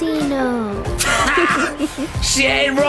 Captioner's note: laughs